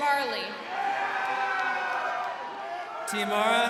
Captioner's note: crowd cheering